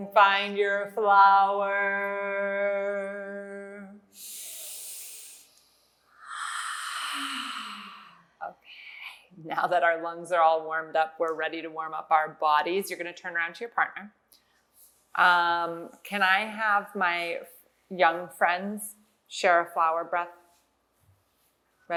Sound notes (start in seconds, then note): 4.3 inhale; 6.2 exhale